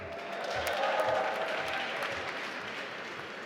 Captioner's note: applause